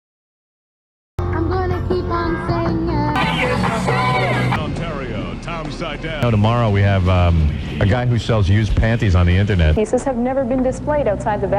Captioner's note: tuning radio